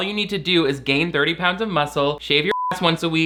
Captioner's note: beep